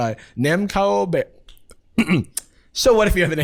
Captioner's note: clears throat